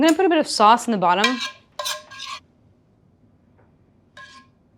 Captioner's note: pan scraping